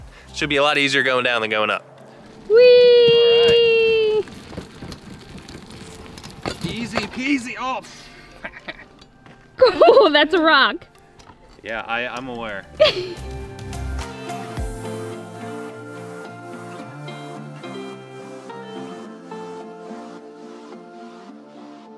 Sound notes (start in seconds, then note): 9.6 laughs; 13.3 carefree music